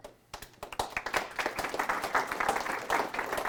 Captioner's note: applause